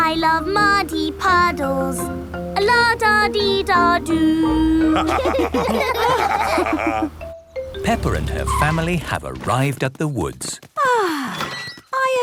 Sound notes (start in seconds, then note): 4.9 laughter; 11.2 contented sigh